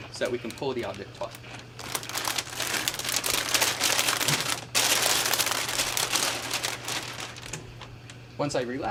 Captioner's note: plastic package rustling